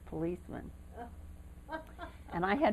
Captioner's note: laughter